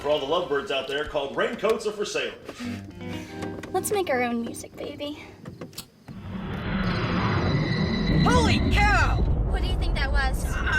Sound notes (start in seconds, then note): 0.0 radio Announcer; 6.2 electronic warbling